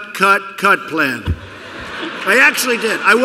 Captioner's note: laughter